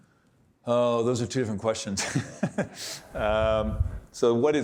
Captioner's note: laughs